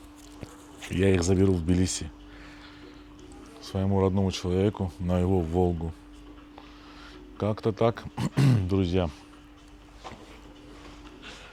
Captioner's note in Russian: откашливается